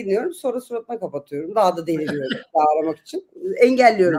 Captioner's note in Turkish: kahkaha